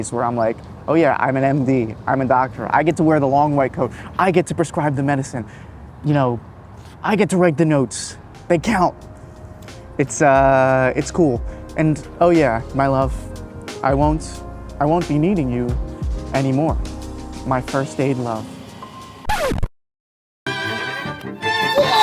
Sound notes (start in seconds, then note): 19.2 audio scratching; 20.4 upbeat music